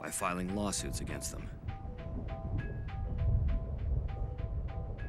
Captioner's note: thunder rumbling